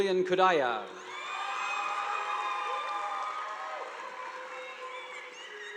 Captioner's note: audience applauding